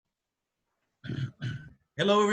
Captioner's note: clears throat